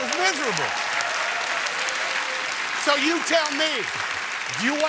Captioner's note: cheers